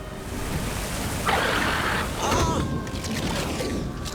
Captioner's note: roaring